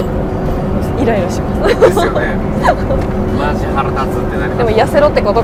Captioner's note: haha